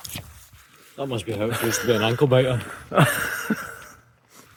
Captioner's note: laughter